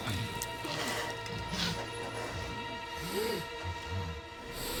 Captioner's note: zombie walter sniffing